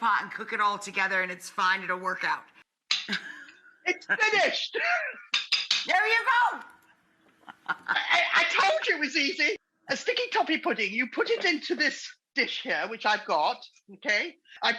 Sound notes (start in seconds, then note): 3.0 laughing; 5.1 whisk clanking; 7.3 laughing